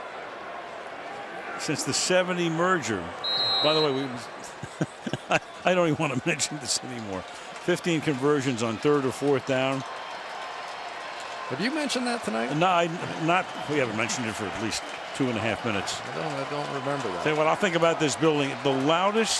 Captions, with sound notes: Since the '70 merger. By the way, [laughs] I don't even want to mention this anymore. 15 conversions on third or fourth down. [cheering] Have you mentioned that tonight? No, we haven't mentioned it for at least 2 and 1/2 minutes. I don't-- I don't remember that. Tell you what?